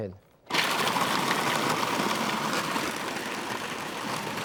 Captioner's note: food processor humming